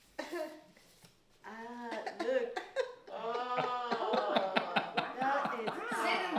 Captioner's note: laughter